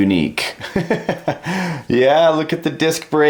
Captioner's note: laughs